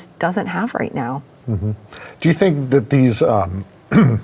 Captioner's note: clears throat